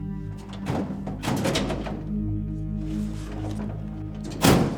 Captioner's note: cabinet drawer rattles